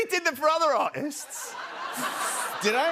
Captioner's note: laughter